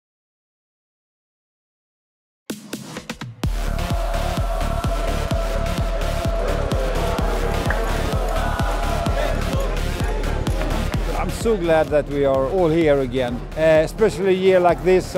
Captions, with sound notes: (upbeat electronic music) (crowd cheering) - I'm so glad that we are all here again, especially a year like this